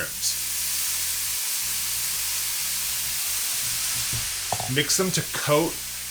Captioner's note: mushrooms sizzling